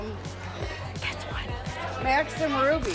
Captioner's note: whispers